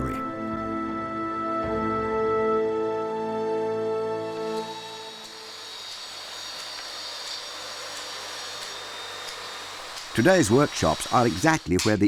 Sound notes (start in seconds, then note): 0.0 dramatic music; 4.1 saw buzzing